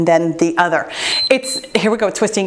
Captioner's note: timer beeps